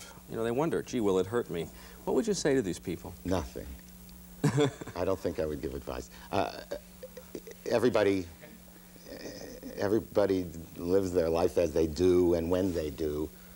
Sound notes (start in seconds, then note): 4.3 laughs